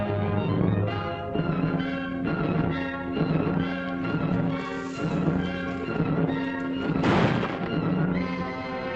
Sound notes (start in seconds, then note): 0.3 action music; 7.0 gunshot